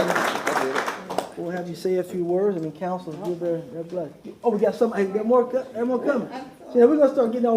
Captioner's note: applause